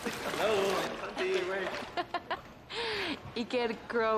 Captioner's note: Tertawa